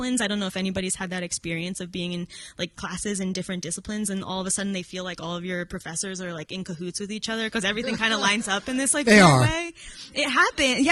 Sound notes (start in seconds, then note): 7.7 audience laughing